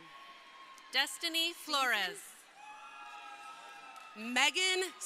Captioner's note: crowd cheering